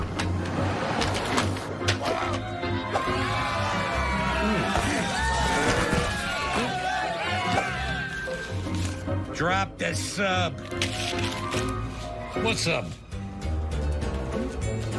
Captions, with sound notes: Whoa! (crowd cheers) Hmmm. Drop the sub! What sub?